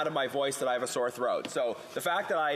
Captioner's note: off mic